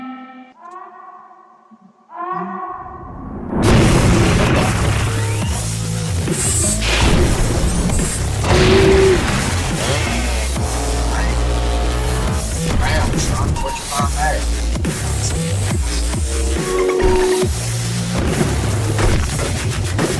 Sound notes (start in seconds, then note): 0.0 faint alarm; 3.2 crash; 5.5 destruction noises